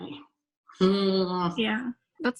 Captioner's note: groaning